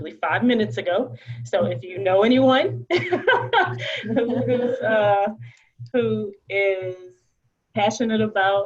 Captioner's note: laughter